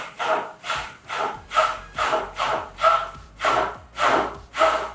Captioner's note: blender buzzing